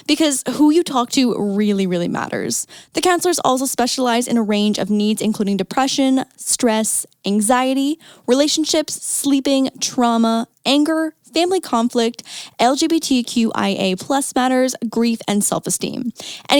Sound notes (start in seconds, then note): none